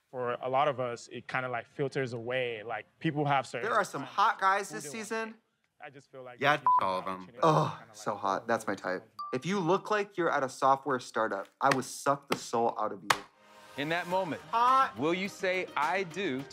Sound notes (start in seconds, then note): 6.6 beep